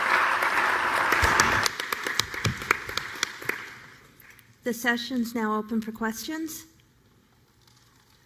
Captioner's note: applause